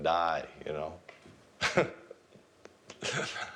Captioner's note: laughs